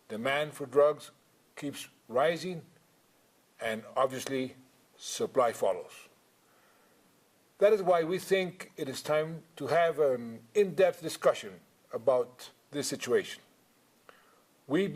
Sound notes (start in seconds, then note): none